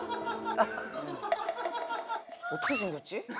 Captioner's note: thonking